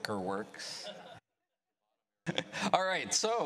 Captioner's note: laughter